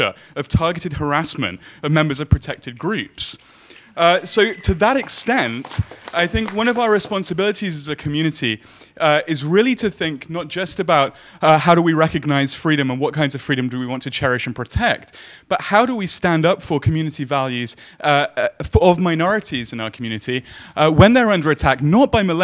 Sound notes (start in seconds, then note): 4.0 audience clapping